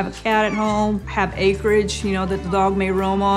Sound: cat meows

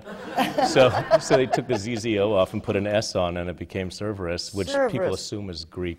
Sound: laughter

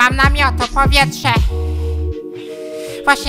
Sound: inhaling

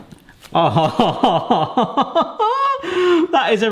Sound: laughs

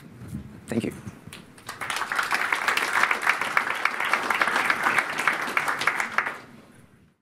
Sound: audience applauding

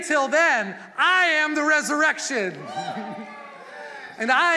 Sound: congregation cheering

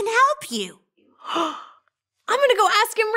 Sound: girl gasps

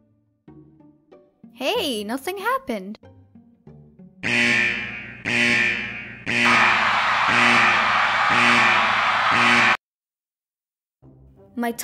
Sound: panicked screams

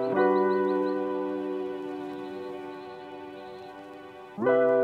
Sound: sounds of birds in the distance; warm, upbeat, Introduction music plays

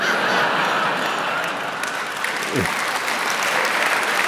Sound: laughter

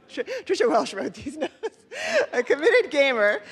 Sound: laughs

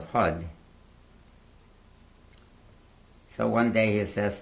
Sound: pauses for 3 seconds

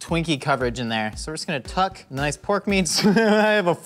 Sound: laughs

